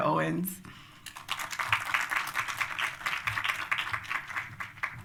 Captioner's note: applause